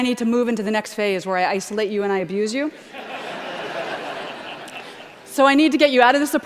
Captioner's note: laughter